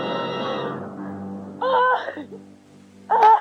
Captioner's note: sobbing